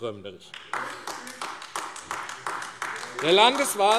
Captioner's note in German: Beifall AfD - Widerspruch BÜNDNIS 90/DIE GRÜNEN